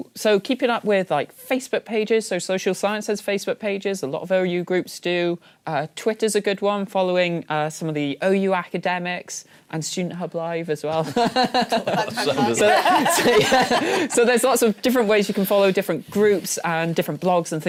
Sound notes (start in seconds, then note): 11.1 laughing